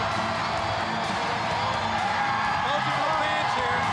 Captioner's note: crowd cheering